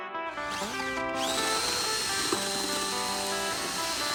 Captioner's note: drill sounds